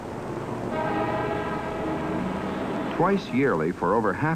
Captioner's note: car horns honking